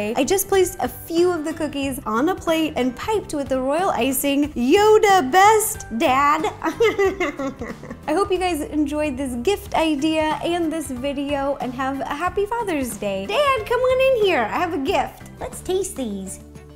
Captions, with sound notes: I just place a few of the cookies on a plate and piped with the royal icing, "Yoda best dad!" (cheesy laughing) I hope you guys enjoyed this gift idea and this video and have a happy Father's Day! Dad! Come on in here! I have a gift. Let's taste these.